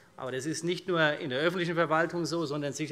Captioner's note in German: none